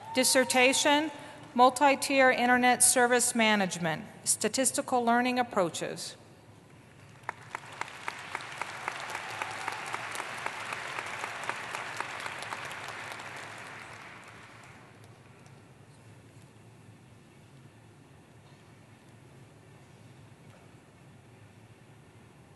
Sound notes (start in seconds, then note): 11.1 applause